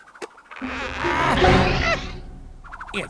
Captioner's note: propellers whirring; strained grunting; startled yelling